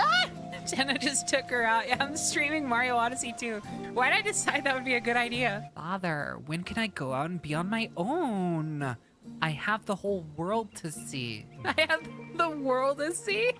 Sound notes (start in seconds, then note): 0.0 Bumping Noise, Penny Yells; 5.6 Pauly Shore Pinnochio Voice